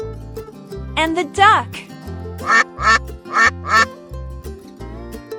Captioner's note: quack!